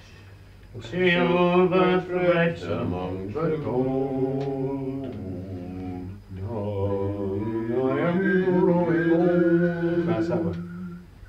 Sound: humming/ whistling the tune

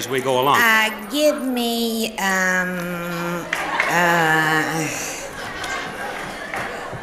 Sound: audience laughing

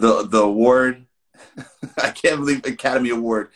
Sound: laughs

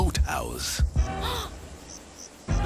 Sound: Gwen Gasping

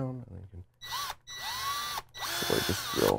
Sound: drill whirring

